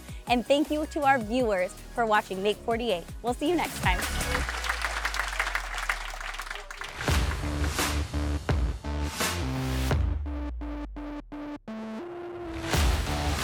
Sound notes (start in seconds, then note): 3.8 audience applauding; 7.0 exciting music